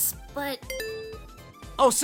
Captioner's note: sonic’s phone rings